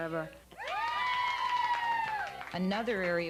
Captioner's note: students cheering